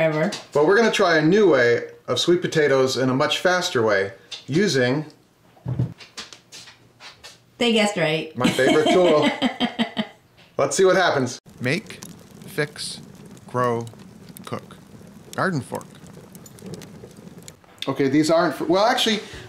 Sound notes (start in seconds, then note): 8.4 camerawoman laughing; 11.4 fire roaring